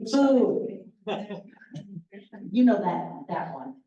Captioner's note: laughter